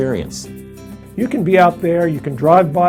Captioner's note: male Voice